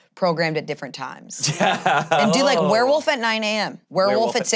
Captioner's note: laughs